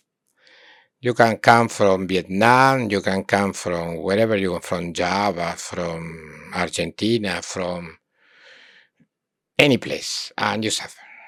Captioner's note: imitates foreign language